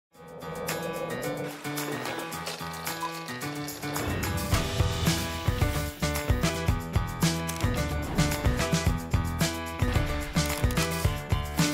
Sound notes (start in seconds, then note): 0.4 upbeat funky music; 7.6 camera clicking